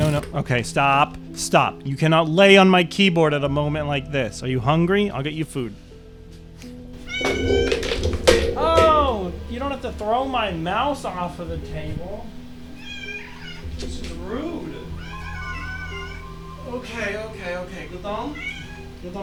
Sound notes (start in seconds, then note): 7.0 meeooooww!!; 12.7 meeeow!; 18.1 meow